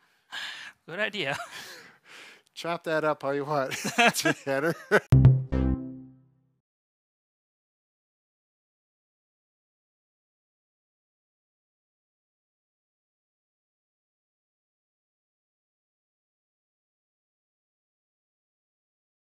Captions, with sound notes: - Good idea. - Chop that up all you want. Take care. (both laugh) (soft music)